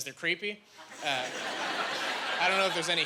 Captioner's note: laughing